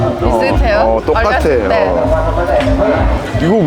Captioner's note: laughing